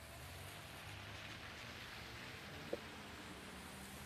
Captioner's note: rain pattering